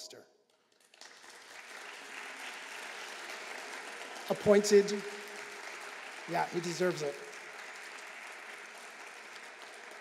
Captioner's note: applause